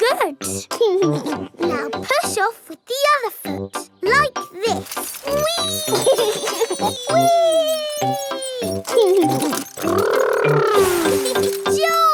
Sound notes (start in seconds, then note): 1.1 chuckles; 5.2 laughs